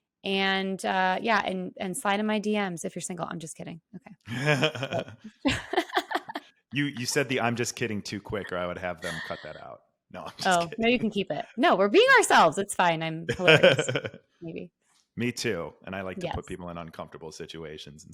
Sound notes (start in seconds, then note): 4.3 laughing; 8.2 laughs